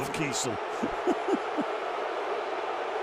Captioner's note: laughs